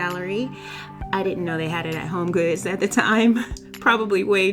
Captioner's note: laughs